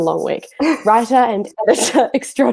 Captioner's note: laughing